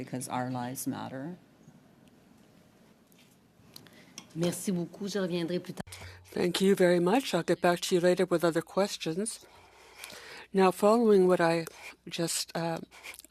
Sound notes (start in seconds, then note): 11.2 speaking French